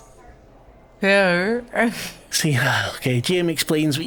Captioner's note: laughs